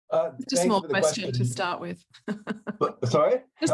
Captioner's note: laughs